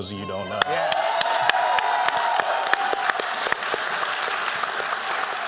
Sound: applause

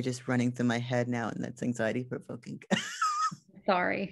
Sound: laughs

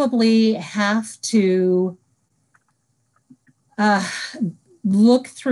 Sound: silence

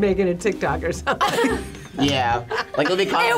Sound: group laughs

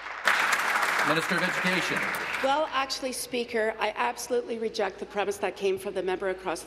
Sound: applause

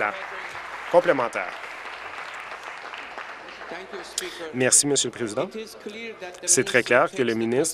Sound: applause

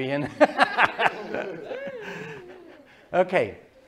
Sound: laughter

